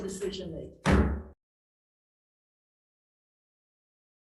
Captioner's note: gavel pounding